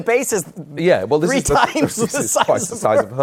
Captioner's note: laughing